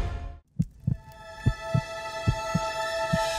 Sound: heart beating

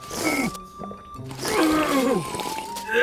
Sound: Goblin Slayer slurps and groans

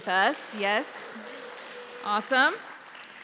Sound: applause

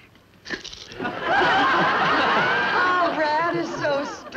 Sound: audience laughs

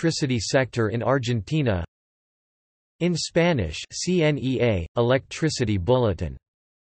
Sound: in Spanish

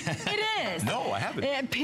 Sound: laughter

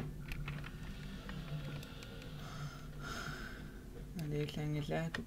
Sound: sighs

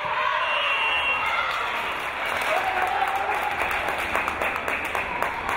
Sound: crowd cheering

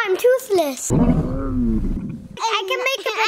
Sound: dragon groaning

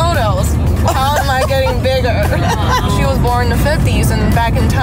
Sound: laughing

